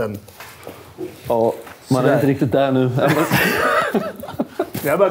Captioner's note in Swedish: skratt